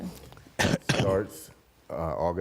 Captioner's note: cough